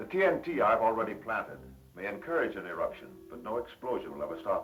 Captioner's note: none